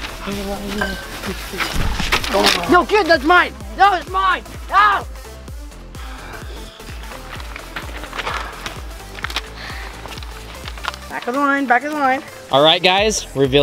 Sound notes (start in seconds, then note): 5.8 sighs